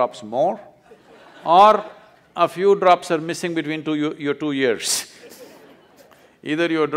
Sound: laughs

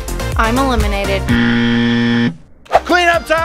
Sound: upbeat music; buzzer ringing

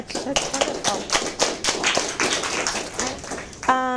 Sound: audience applause

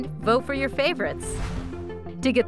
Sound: whooshing

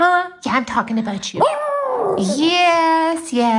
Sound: howling

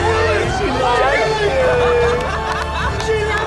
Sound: laughter

